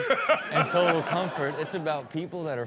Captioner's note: Steelo laughs